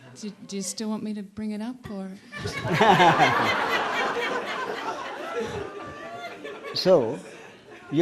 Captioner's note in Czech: smích